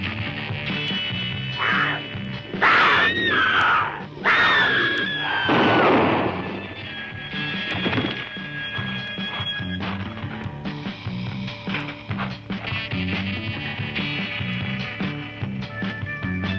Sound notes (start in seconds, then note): 1.5 growling; 2.5 screams; 5.4 gunshot